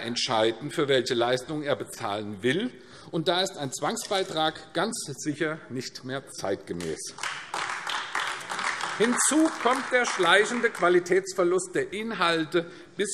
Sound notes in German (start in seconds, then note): 6.7 Beifall AfD